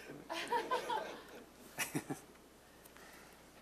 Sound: audience laughing

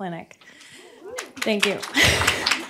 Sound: applause

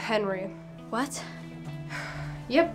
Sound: exhales

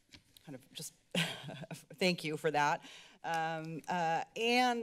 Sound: giggles

